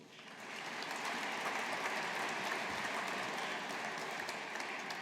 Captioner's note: audience applauding